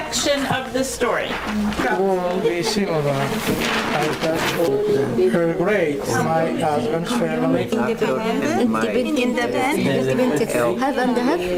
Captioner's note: students talk in their small groups